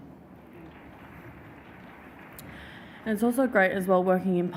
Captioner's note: audience applauds